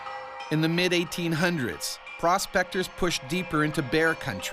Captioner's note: voiceover